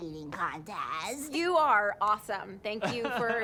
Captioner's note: laughs